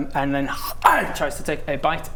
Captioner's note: egg chomp!